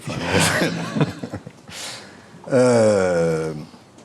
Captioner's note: people laughing